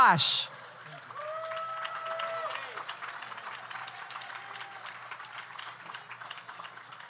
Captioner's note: audience cheers; audience applauds